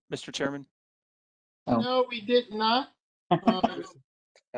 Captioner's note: laughter